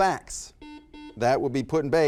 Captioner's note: beeping